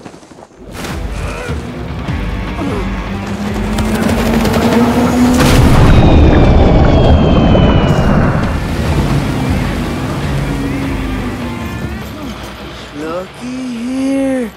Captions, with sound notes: (water splashes) (rock music) (boat engine) (loud crash) - Lookie here.